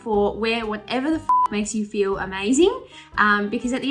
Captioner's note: beep